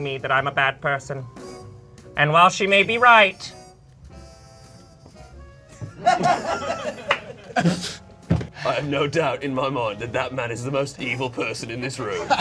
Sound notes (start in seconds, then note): 5.9 people laughing